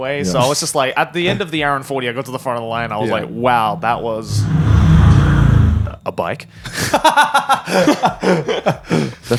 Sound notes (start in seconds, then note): 4.3 motorcycle revving; 6.6 laughing